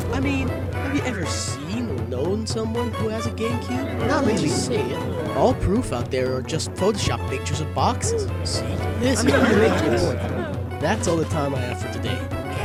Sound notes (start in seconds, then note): 4.0 crowd murmuring; 9.0 crowd intriegued